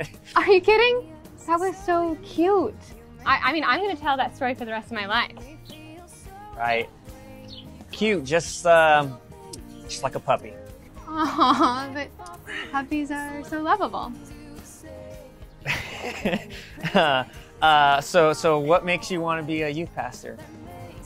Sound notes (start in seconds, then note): 15.6 Laz laughs